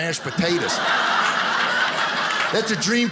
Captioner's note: audience laughing